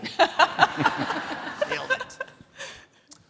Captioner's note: all laughing